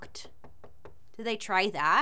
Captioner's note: door knocking